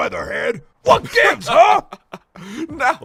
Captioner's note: laughs